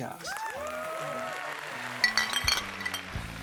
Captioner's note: applause